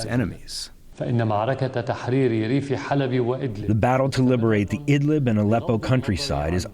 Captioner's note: through translator